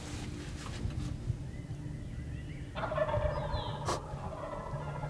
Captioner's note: turkeys gobbling